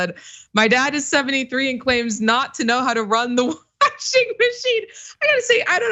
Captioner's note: laugh; laugh